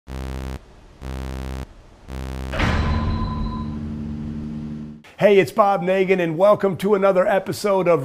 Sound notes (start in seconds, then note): 0.0 buzzing sound